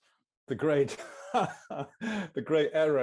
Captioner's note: chuckles